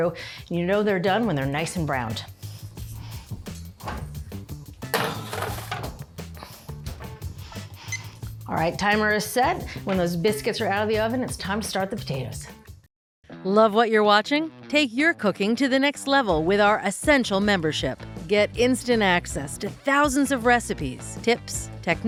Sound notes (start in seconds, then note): 8.0 timer beeps